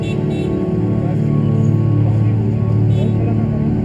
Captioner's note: horn honking